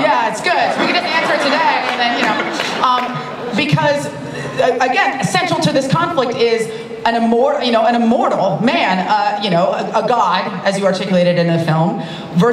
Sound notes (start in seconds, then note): 2.6 laughter